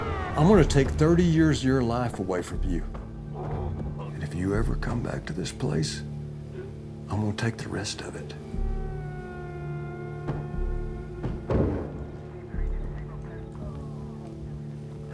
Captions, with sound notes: I'm gonna take 30 years of your life away from you. And if you ever come back to this place, I'm gonna take the rest of it. [CAR DOORS SHUT] [POLICE RADIO CHATTER]